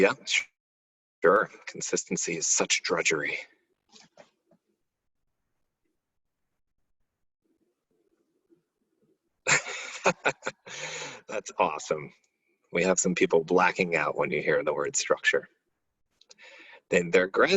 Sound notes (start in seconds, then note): 9.4 laughing